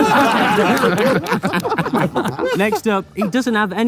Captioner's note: group laughs